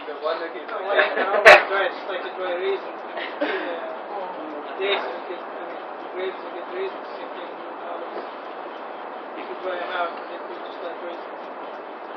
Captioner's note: konuşma ve gülüşmeler